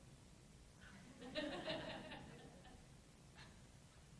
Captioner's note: laughs